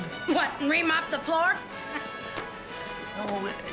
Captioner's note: chuckles